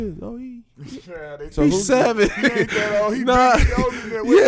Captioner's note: laughs